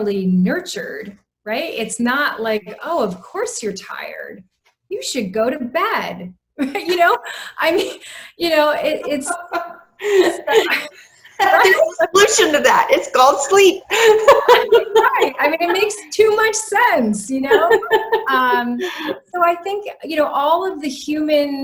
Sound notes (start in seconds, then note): 8.6 laughter